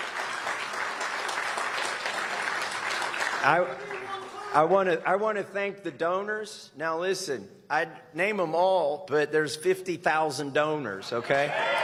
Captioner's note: applause